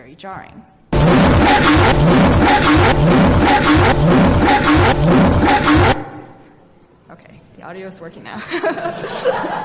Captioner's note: static; laughter